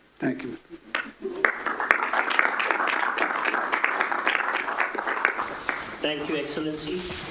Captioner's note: applause